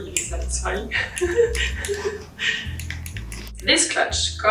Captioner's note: laughs